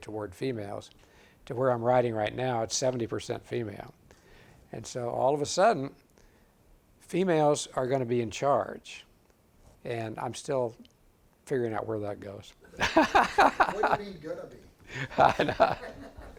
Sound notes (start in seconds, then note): 12.8 audience laughing